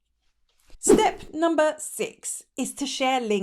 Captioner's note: air whooshing